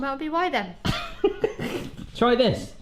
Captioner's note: laughs